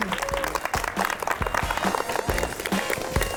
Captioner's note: audience applauds